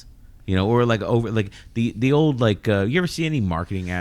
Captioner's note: uh